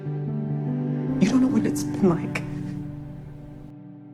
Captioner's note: voiceover